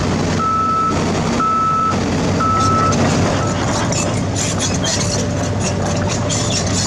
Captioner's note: engine Rev